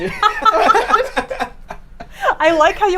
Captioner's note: all laugh